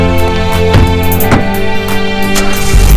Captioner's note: Car door and boot closes; Engine starts